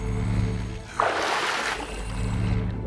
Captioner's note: splash